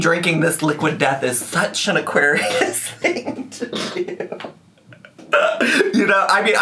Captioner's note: laughs